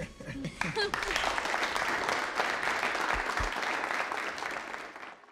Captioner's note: crowd applauding